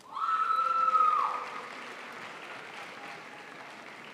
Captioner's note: crowd applauds